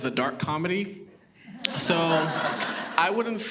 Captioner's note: audience laughs